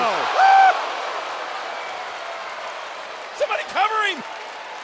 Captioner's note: crowd exclaiming and clapping